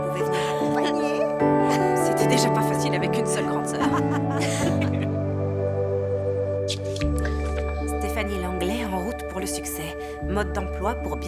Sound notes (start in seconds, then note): 3.3 laughing